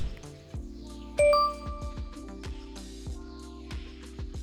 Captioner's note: bell rings